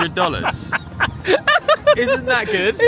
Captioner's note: laughs